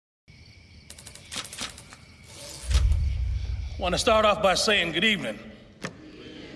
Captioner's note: insects chirping